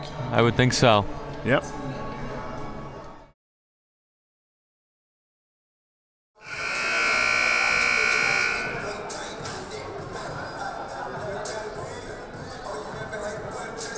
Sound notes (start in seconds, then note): 6.4 buzzer; 10.2 hip hop music